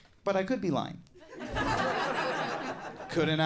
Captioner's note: audience laughing